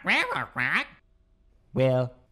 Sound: squawks

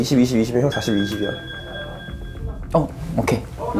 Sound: end of negotiation alarm

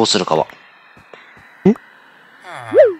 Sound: excited gasp reax

